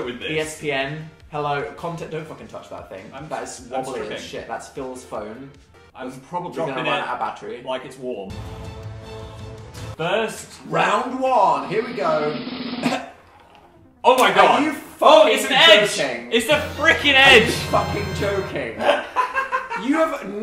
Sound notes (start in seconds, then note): 8.3 intense music; 12.7 coughs; 18.8 laughs